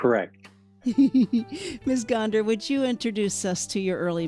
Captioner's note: presenter laughs